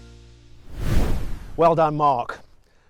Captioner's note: air whooshes